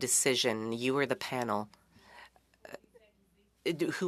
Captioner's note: speaking French